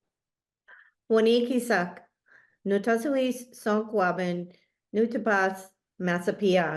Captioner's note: speaking in foreign language